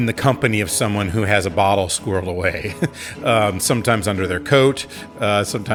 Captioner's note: laughs